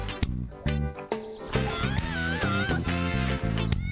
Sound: screams; meows

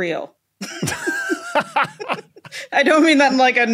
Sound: laugh

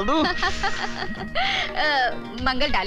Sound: laughs

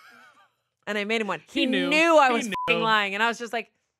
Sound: beep

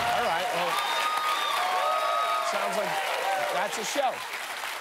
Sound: cheers and applause

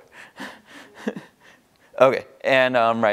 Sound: laughs

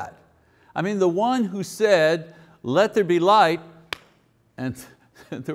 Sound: claps

